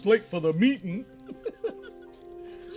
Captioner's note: laughter